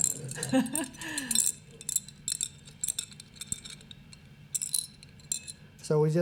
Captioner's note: laughter